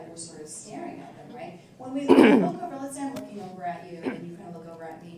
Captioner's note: laugh